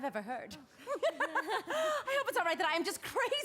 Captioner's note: both laugh